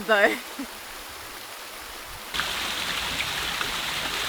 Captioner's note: water burbling